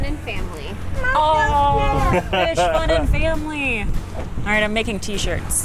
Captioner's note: chuckling